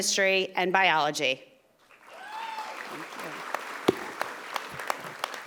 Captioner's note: audience applauding